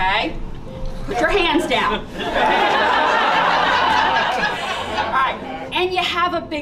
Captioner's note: laughter